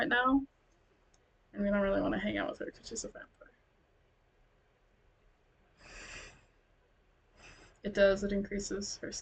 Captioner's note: sigh